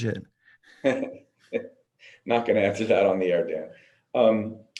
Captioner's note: laughs